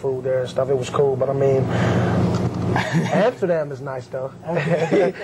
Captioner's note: laughter; laugh